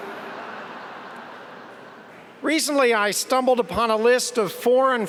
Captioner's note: laughter